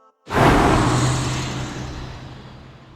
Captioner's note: engine roars